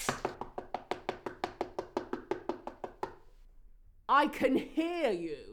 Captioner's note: door knocking